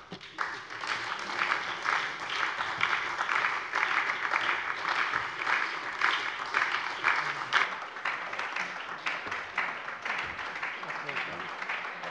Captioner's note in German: Anhaltender Beifall bei der SPD